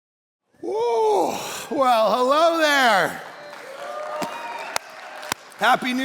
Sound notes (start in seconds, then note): 1.8 congregation applauding